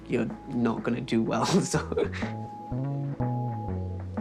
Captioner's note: laughs